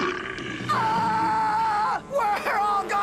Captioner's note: Owen Screaming